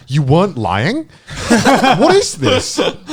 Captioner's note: laughing